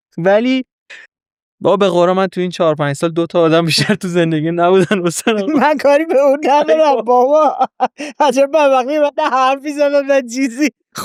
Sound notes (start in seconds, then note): 4.7 laughs